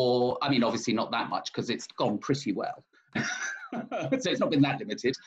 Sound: laughs

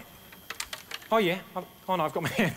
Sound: plectrum rattles

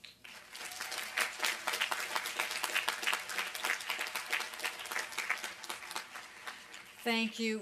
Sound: applause

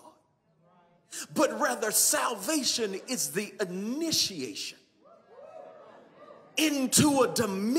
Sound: congregation cheers

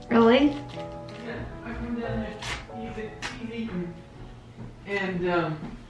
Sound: talking in the other room

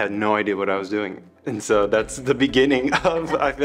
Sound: both chuckling

